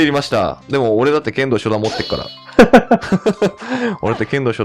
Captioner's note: both laughs